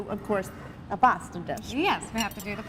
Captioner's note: affects Italian accent